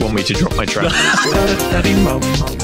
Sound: bursts out in laughter

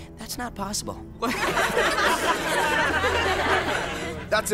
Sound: laughter

